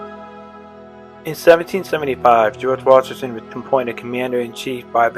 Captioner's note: voiceover